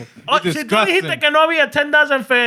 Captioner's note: non-english Speech